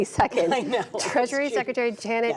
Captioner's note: laughter